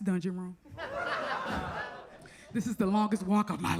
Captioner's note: audience laughs